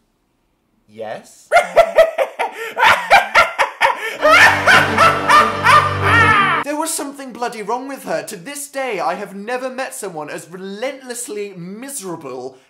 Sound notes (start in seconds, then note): 1.5 cackling, which gets louder and louder until it resembles an evil laugh